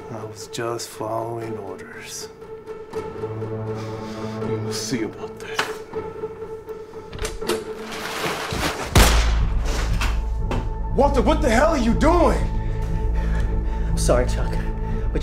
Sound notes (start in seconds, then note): 7.8 plastic rustling; 8.9 weapon firing